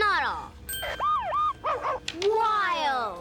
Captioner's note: <i> dog barking</i>